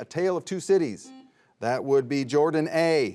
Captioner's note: buzzer buzzes